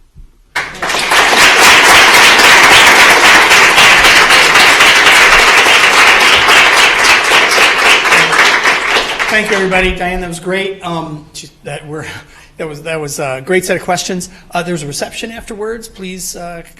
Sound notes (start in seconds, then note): 2.8 applause